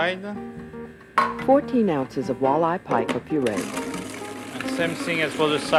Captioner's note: voiceover